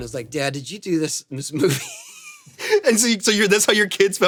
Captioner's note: laughs